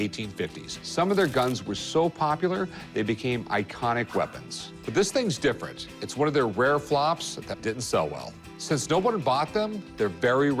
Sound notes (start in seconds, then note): none